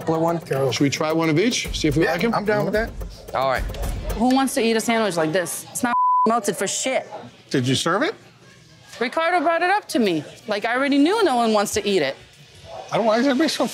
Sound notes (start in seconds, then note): 5.9 beeps